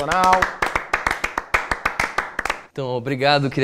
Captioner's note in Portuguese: Palmas